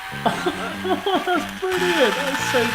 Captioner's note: laughing